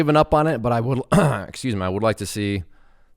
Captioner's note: clears throat